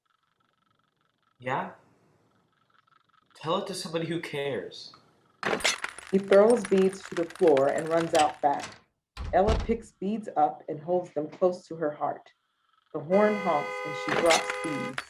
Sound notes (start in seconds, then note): 5.4 beads crashing; 13.0 car honks